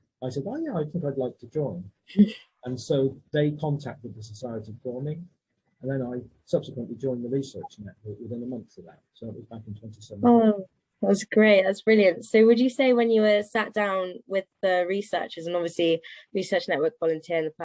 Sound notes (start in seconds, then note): 2.2 chuckles